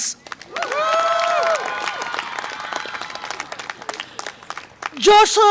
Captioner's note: audience applause and cheer